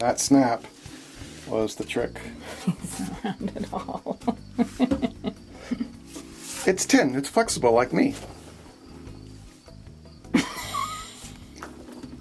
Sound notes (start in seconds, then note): 2.4 laughing; 10.3 camerawoman laughing; 12.0 metal creaking